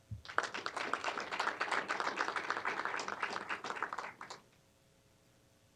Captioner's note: applause